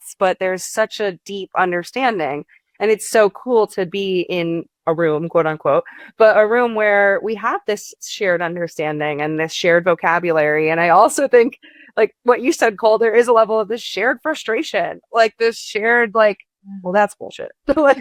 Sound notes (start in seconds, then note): none